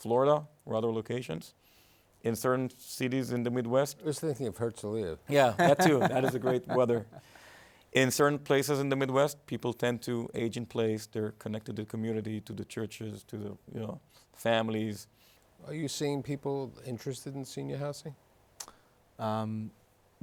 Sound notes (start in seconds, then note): 5.5 laughters